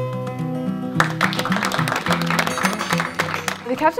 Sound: applause

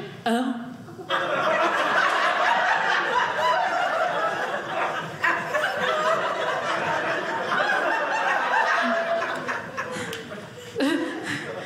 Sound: audience laughing

